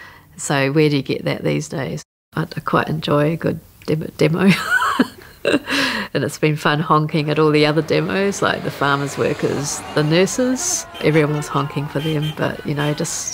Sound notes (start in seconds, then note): 5.1 laughs; 7.0 traffic and honking; 12.1 honking